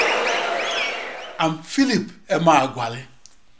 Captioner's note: wild applause and cheering for 22 seconds